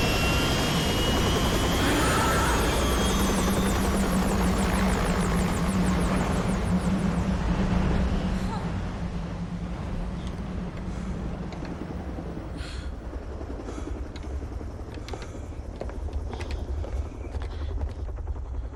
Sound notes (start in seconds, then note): 5.4 helicopter screams away